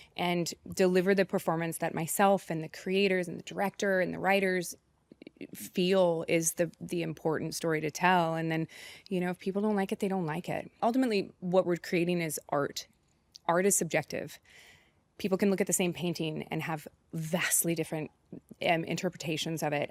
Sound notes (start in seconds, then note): none